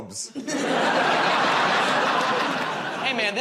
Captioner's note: laughter